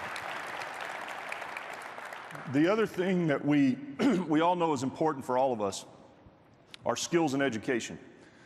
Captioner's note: applause